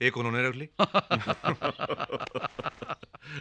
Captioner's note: laughing